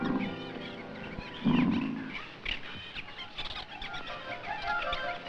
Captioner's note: leopard roars